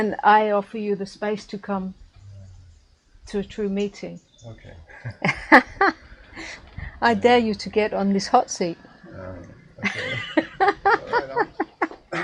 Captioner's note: laughing